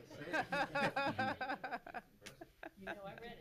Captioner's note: laughs